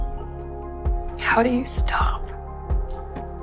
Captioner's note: voiceover